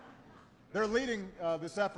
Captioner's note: laughter